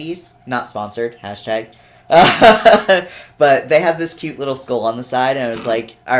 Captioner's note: laughs